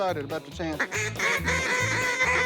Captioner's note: duck calls